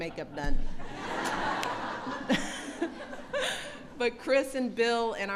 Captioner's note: laughter